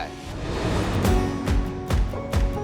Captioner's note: air whooshing; uplifting music